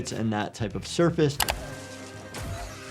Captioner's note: keyboard clacking